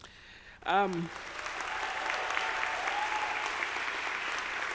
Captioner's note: audience applauding